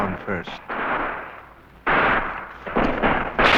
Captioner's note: gunfire